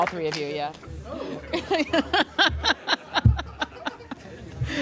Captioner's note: laughter